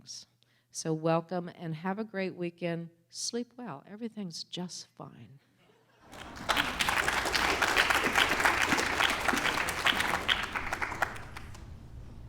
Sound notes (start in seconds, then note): 6.0 applause